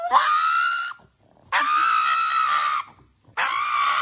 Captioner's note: dog squealing